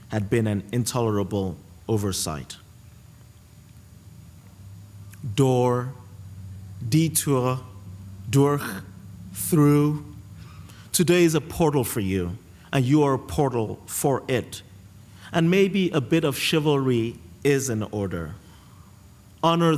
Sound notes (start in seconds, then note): 6.3 non-english